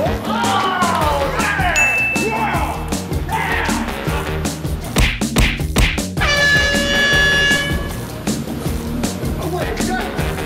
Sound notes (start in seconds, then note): 1.3 active grunting; 6.2 air horn blowing